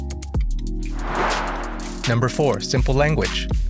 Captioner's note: whoosh; chill electronica